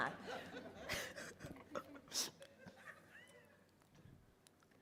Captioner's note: all laughing